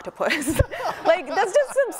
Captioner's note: laughing; man laughing